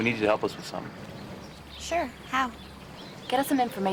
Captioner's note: birds chirping